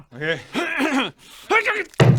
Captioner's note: hrr hrhmm; hrr-grr